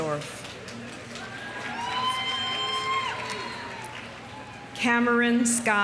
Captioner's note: audience applauding; audience cheering